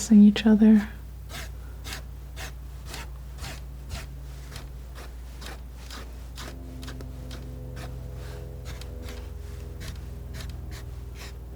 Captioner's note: scratching